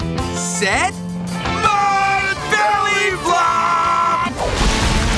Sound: both screaming

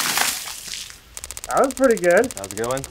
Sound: water sloshing; counter ticking

